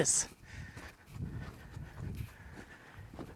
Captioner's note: footsteps and heavy breathing